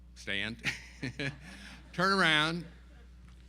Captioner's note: laughs